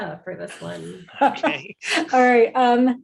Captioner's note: laughs